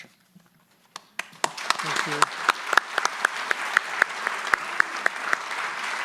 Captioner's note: audience applauding